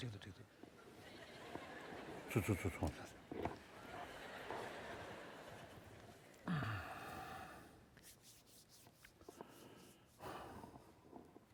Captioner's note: foreign Language